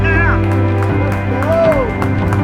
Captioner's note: applause